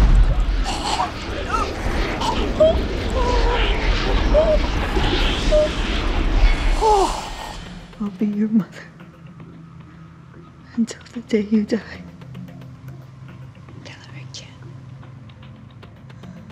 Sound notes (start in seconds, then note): 4.3 groaning